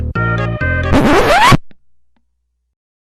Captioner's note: upbeat music; record scratching